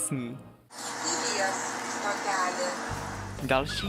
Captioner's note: sound of bus speaker